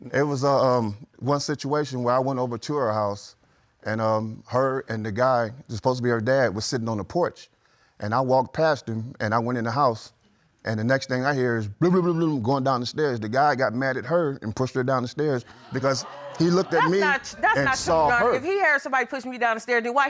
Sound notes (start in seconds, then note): 15.5 audience gasps